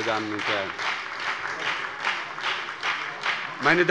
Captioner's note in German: Beifall bei der SPD und der FDP